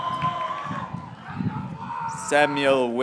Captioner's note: graduates cheering